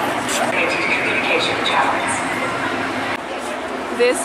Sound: crowd chattering

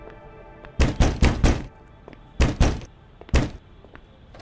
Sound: door banging

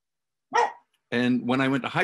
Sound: dog barking

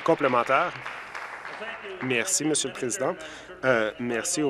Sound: applause

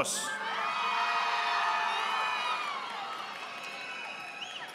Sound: audience applauding

